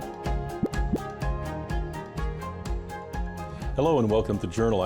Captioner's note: word bubbles pop